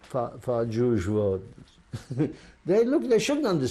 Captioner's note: laughs